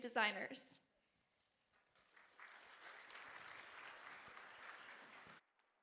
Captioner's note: audience applauding